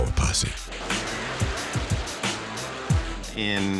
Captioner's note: gunshots